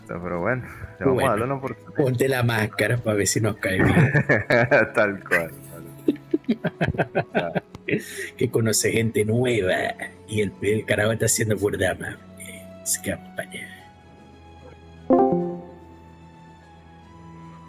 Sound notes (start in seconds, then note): 0.8 laughs